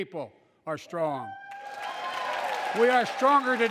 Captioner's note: applause